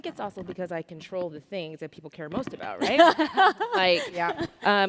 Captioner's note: laughter